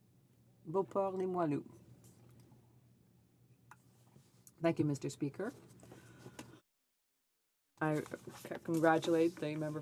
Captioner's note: speaking French